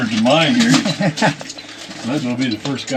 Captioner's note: laughs